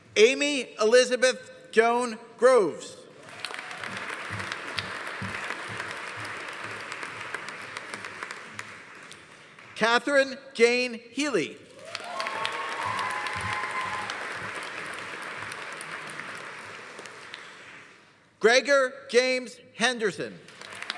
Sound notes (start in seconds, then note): 3.2 audience applauding; 3.2 audience cheering; 11.7 audience applauding; 11.8 audience cheering; 20.4 audience applauding; 20.7 audience cheering